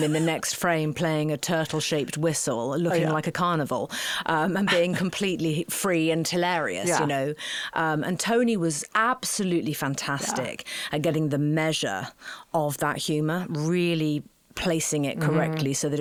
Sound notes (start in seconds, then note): 0.0 laughing; 4.6 laughing